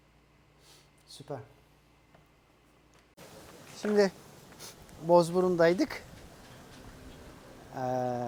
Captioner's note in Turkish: homurdanır